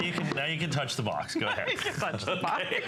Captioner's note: laughter